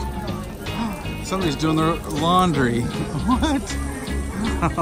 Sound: gasping; chuckling

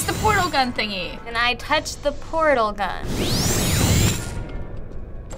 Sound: gun zaps

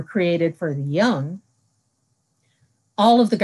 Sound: silence

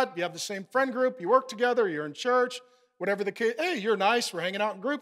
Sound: none

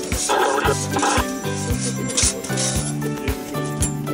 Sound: aircraft radio

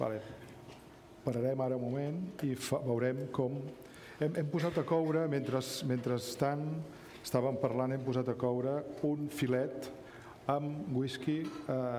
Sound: speaking catalan

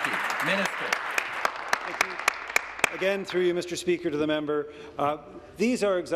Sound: applause

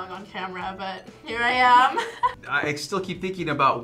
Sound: laughs

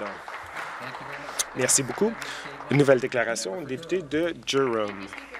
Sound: some Applause

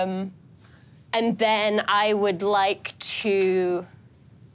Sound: none

